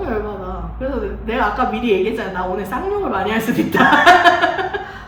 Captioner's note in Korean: 하하하